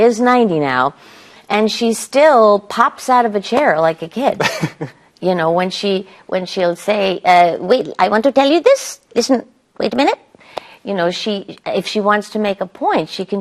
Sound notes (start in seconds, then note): 4.3 laughs; 7.1 as Dr. Ruth